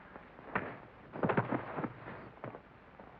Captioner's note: thump